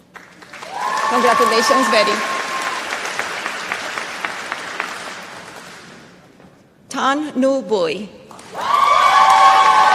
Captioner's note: applause